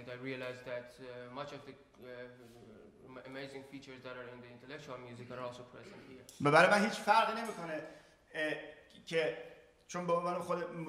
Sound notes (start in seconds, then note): 5.9 speaking in farsi